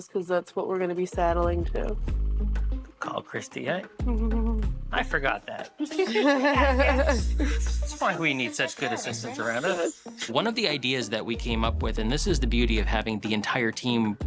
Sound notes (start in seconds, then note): 5.7 laughter